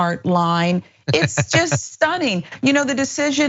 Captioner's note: laugh